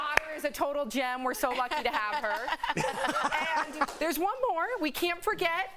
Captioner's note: applause